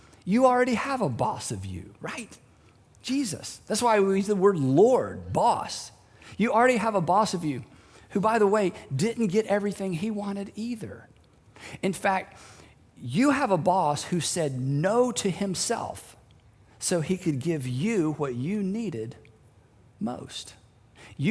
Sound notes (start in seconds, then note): none